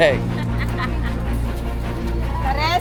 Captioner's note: laughing